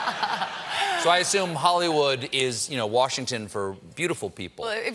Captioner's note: laughter